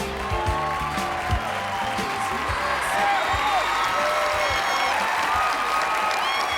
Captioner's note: cheering